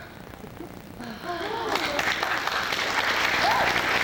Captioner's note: applause